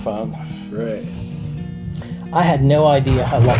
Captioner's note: voiceover